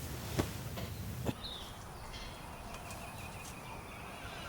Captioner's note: birds chirping